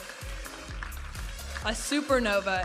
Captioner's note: audience applauding